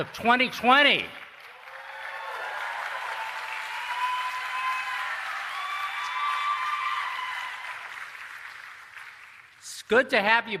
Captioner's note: cheering and Applause